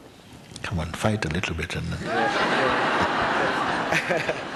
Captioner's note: laughter